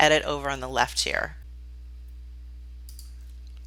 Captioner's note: typing